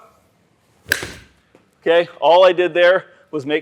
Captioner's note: club strikes